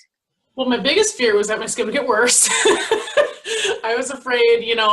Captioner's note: laughs